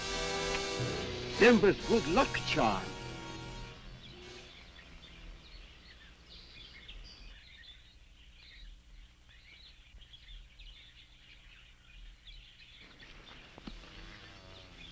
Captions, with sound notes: - Denba's good luck charm! (birds chirping)